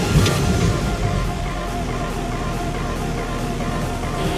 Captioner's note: engine working